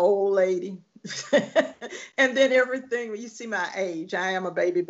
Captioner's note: laughing